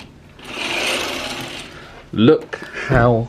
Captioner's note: curtain rail clacks